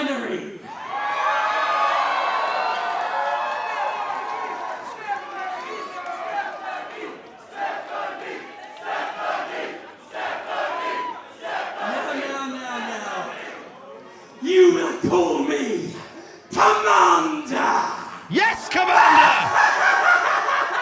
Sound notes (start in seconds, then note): 0.6 cheers; 6.0 Crowd chants "Stephanie" on repeat